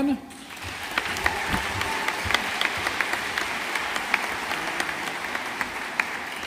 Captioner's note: audience applauding